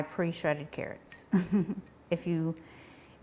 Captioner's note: chuckles